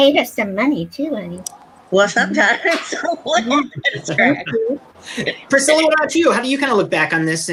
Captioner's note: laughs